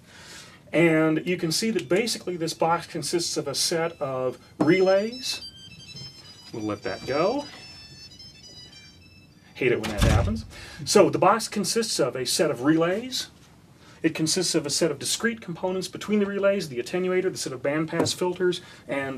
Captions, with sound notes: And you can see that, basically, this box consists of a set of relays... [Ring tone plays] We'll let that go. Hate it when that happens. [Door closes] So the box consists of a set of relays. It consists of a set of discrete components between the relays-- the attenuator, the set of bandpass filters, and the set